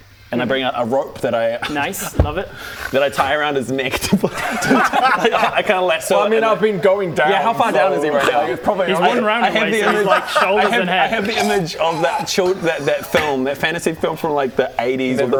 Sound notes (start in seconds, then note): 3.8 helpful laughter